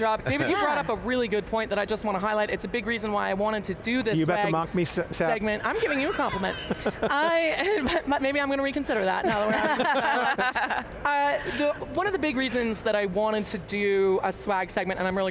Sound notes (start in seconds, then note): 5.7 laughs; 9.2 laughing